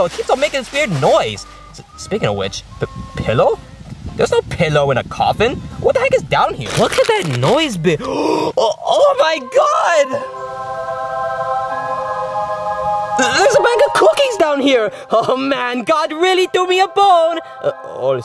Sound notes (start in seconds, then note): 8.0 gasps; 9.0 ethereal music